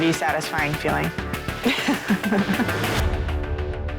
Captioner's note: laughing